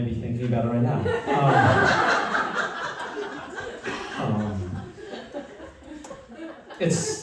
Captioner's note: laughter